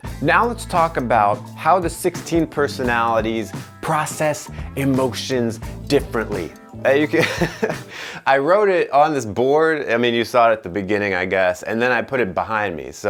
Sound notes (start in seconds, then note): 7.2 laughing